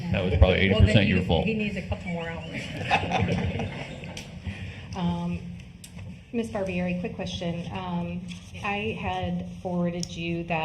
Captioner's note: laughter